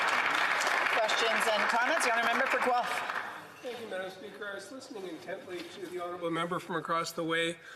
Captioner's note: some Applause